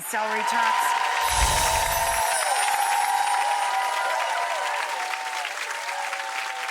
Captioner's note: audience cheers and claps; chimes twinkle